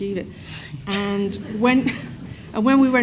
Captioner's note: audience laughs